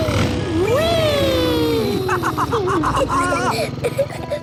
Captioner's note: laughs